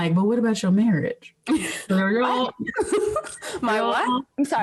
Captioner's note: laughing